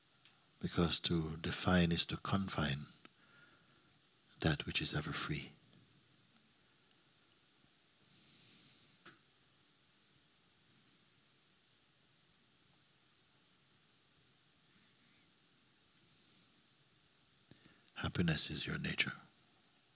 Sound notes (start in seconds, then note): 7.9 silence